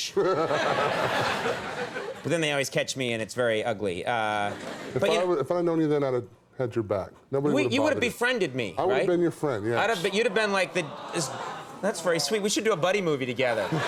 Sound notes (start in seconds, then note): 0.1 audience laughs; 0.2 Big Show laughs; 4.4 audience laughs